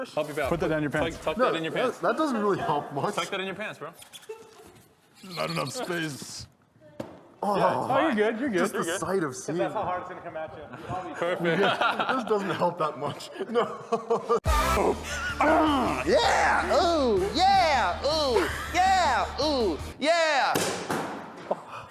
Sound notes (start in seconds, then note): 12.9 laughs; 15.3 grunts